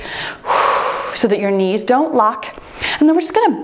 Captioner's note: exhales